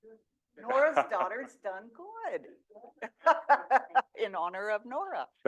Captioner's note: laughs